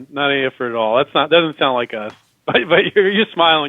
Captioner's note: laughs